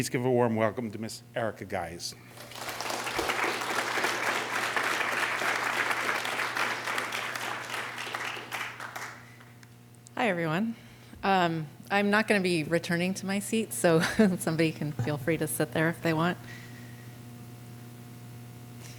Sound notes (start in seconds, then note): 7.7 applause; 14.0 laughter